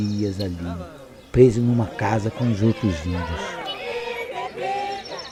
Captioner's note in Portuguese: Murmúrio